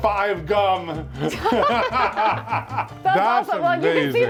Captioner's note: both laughing